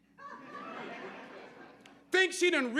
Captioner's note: audience laughing